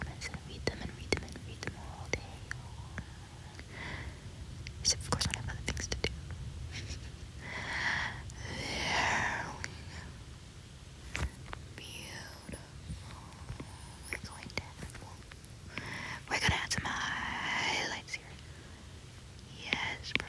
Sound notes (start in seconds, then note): 6.8 maniacial snicker